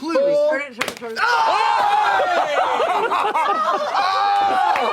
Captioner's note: exclaiming